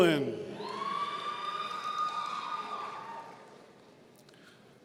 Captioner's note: audience cheering